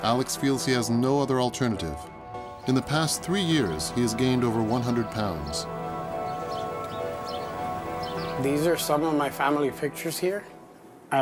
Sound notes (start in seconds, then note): 5.9 birds chirping